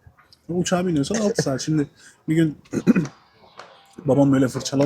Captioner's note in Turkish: boğazını temizler